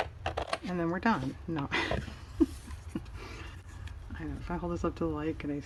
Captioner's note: laughs